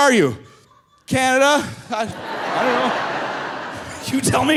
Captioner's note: audience laughing